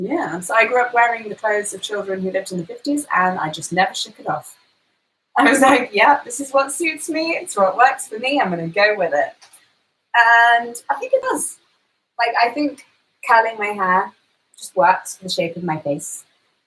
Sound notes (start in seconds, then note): none